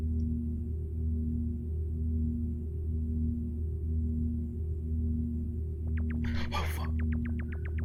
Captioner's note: whispering